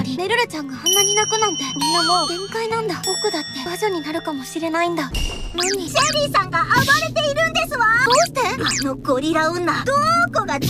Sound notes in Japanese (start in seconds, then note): 5.1 物音